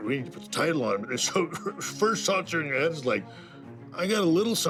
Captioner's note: laugh